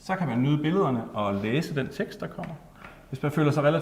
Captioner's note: in Danish